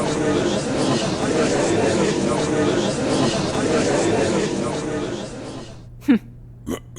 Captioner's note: gallery chattering